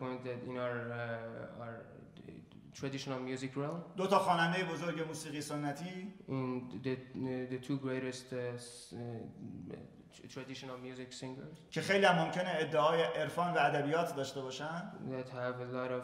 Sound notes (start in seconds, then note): 3.9 speaking in farsi; 11.9 speaking in farsi